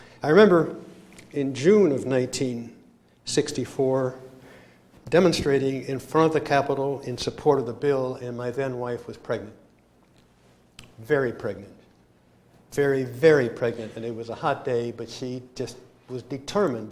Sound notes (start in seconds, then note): none